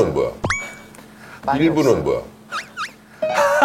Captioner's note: haha; haha